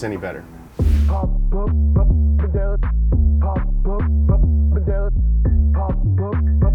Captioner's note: upbeat music playing; transition whooshes